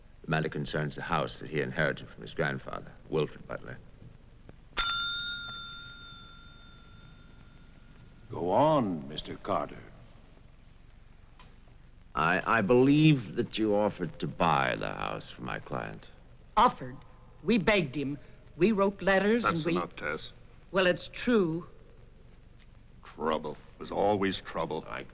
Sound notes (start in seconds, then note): 4.7 Charlie Towman rings the desk clerk's bell